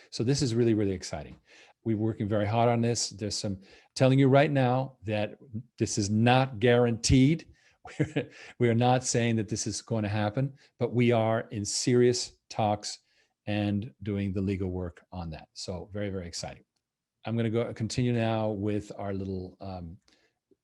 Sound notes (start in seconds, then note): 7.8 chuckles